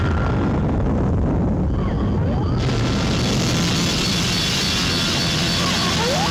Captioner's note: volcano rumbling; wasps shrieking